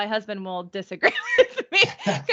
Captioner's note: laughing